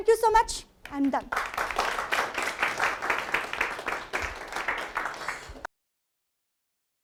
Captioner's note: applause